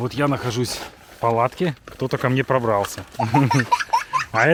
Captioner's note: children's laughter